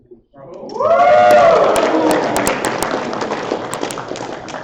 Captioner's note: applause